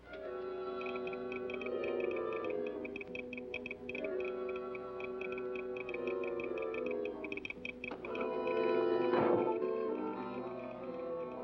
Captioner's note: telegraph machine tapping